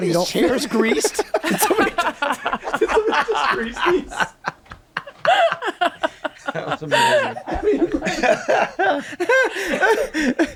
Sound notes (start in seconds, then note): 0.5 cast laughs; 5.2 laughing